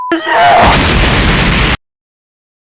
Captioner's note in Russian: Взрыв